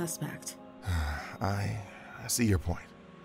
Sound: sighs

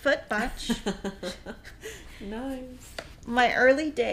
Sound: laughing

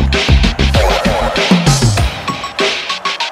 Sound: echoing

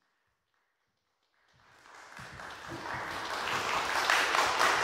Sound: audience applauding

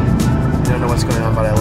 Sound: upbeat music; motor bike engines accelerating

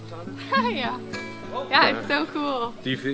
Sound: laughs

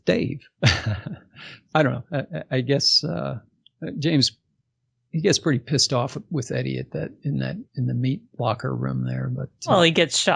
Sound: laughs

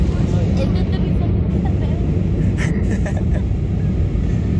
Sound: laughs

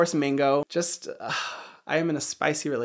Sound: sighs

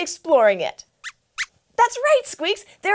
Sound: squeaks squeaks

